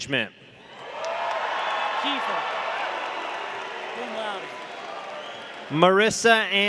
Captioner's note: audience cheering; audience applauding